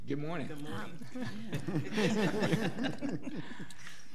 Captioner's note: laughing